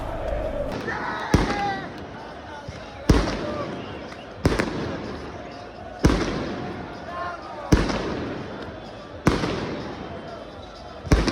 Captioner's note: fireworks